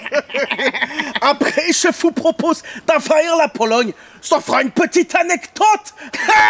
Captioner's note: german accent